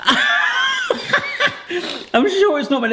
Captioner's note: laughs